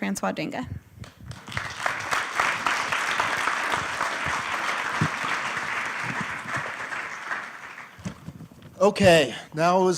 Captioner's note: applause